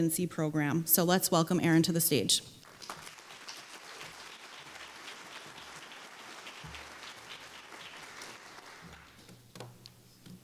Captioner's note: applause